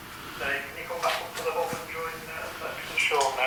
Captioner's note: over The Walkie